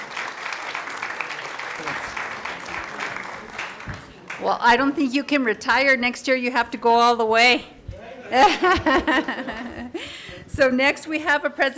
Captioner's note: applause